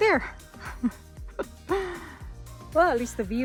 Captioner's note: laughs